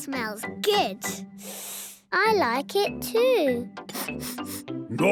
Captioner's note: sniffing; sniffs